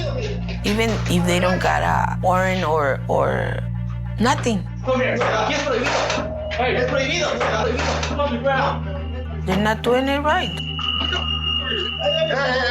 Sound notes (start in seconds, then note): 6.6 worker speaking in Spanish